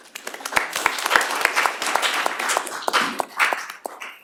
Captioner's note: applause